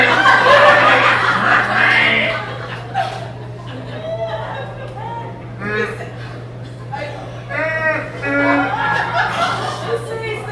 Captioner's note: more sobbing